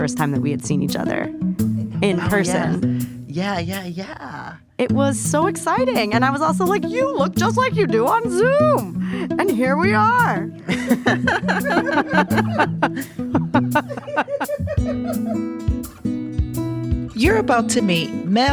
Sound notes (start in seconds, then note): 14.9 laughter